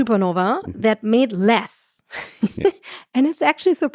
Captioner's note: chuckles